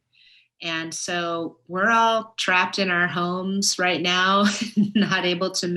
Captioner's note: laughs